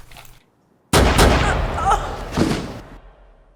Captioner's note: Nicole gasping; gun firing; body thudding